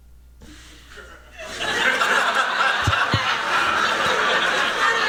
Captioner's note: laughter